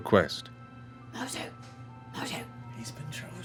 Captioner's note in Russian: шёпотом